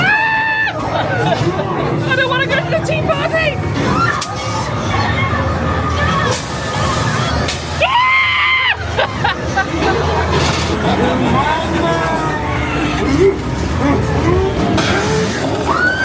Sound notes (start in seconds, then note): 0.2 screaming; 0.4 guest laughing; 3.7 guests screaming; 8.2 screaming; 8.4 guest laughing; 11.1 scareactor laughs wickedly